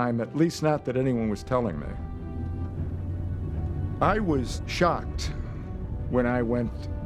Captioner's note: none